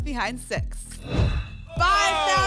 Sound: whoosh

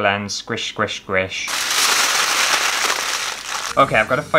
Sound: tin Foil Crumpling

